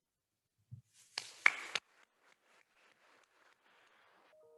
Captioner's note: attendees applauding